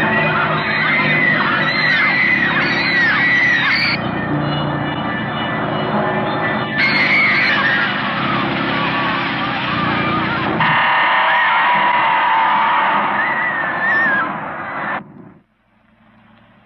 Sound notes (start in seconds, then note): 0.0 screaming; 10.8 ominous music